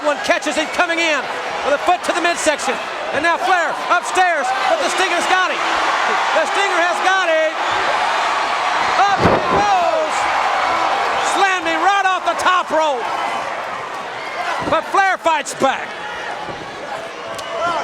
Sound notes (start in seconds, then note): 9.1 Ric thudding on ring; 9.2 crowd cheering